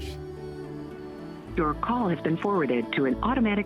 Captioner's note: Robotic voice